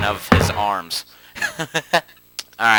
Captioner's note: troll laugh